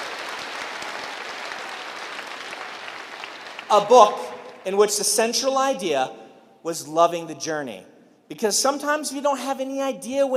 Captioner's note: cheering and applause